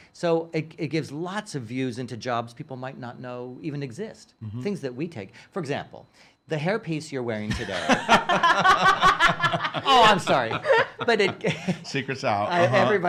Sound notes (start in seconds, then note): 7.6 laughing